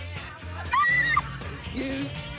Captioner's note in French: en hurlant